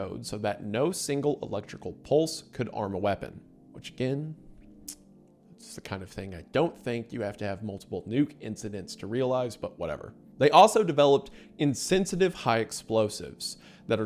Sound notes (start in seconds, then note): 4.6 clicks tongue